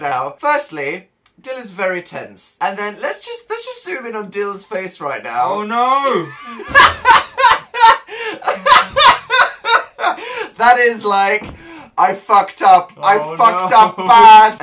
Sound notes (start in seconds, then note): 6.0 still laughing uwu; 6.3 cackles